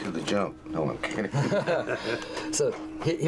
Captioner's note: laughing